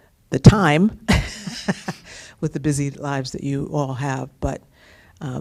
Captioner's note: laughter